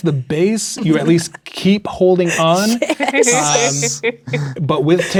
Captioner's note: laughing